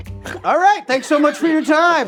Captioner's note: snorting; all laughing